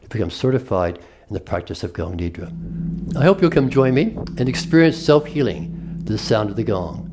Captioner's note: gong is Played